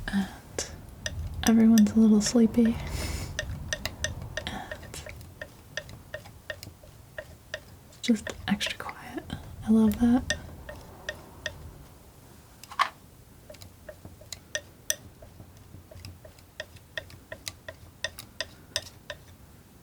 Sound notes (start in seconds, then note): 10.2 tapping